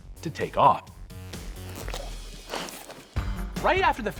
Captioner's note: slurpnig